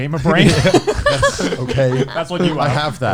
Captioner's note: laughs